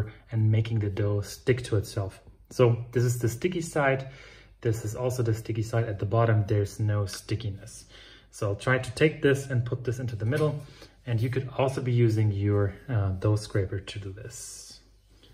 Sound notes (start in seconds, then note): none